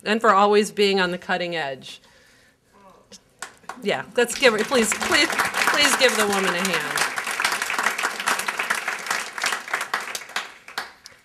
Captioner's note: applause